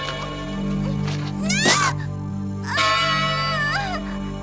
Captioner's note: crying out